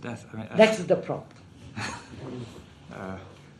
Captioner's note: laughs